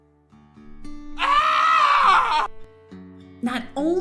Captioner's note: screams